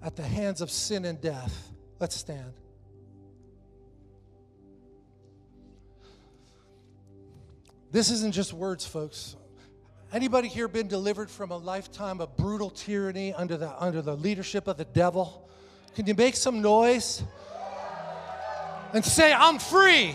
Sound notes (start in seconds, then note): 16.8 congregation cheers